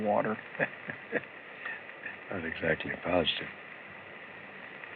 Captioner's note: chuckles